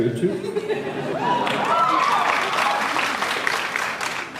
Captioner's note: laughs, cheers